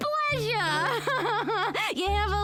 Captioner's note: laughs